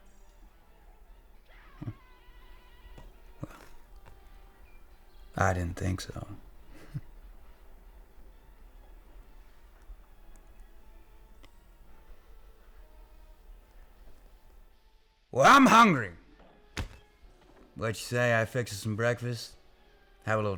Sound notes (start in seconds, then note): 5.4 chuckles